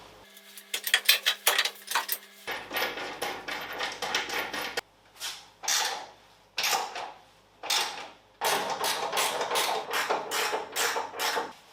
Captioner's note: working sound